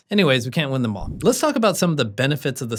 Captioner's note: air whooshing